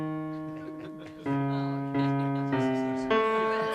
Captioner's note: snickering